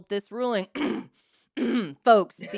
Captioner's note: laughs; clears throat